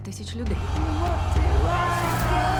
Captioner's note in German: Kampfgeschrei